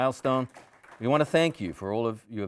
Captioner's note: audience applauding